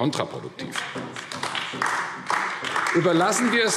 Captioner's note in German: Beifall AfD